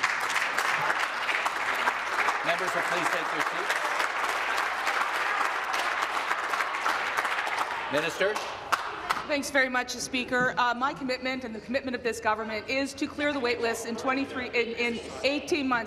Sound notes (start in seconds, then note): 2.5 voice trailing; 4.2 applause